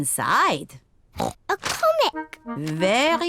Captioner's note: oinks